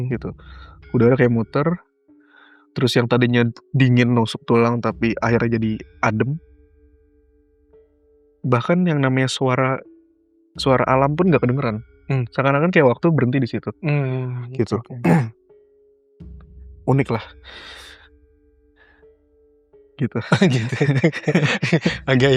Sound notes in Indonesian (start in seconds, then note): 15.0 berdehem; 20.2 tertawa